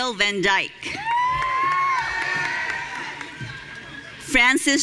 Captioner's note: audience cheering